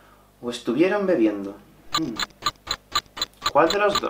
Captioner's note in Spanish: Tic tic tic